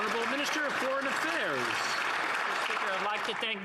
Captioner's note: some Applause